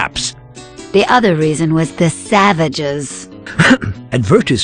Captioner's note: cough sound